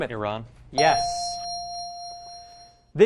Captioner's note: ding